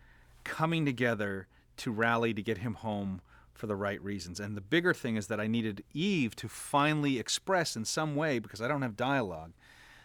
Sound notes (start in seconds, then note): none